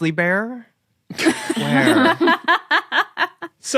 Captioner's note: others laughing